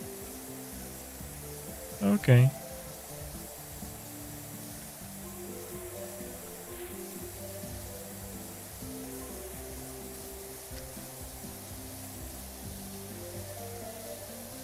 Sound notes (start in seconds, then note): none